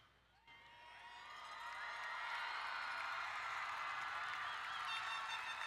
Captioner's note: crowd cheering and applauding